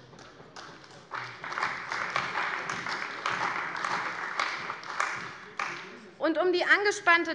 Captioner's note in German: Beifall bei der CDU